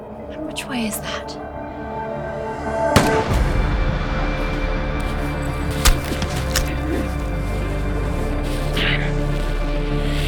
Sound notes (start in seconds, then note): 2.9 gun shot from white ghost sniper; 7.2 suspenseful music